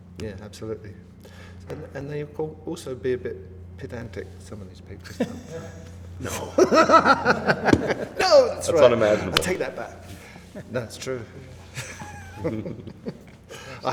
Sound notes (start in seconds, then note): 6.2 laughter; 11.0 laughs